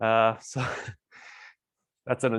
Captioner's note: chuckles